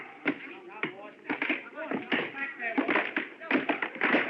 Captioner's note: chattering